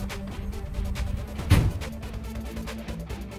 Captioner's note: Van door closes